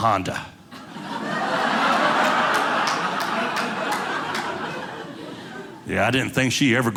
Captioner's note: audience laughing